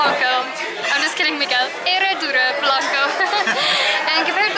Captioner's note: laughter